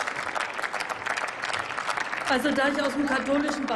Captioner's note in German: Applaus